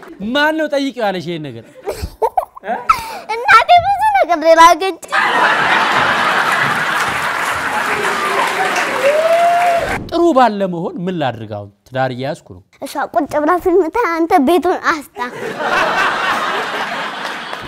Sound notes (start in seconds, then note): 0.0 laughter and applause; 1.7 laughter; 5.1 laughter and applause; 15.2 laughter